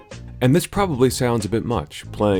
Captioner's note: none